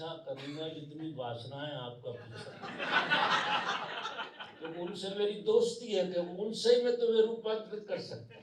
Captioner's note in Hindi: हंसी; हंसी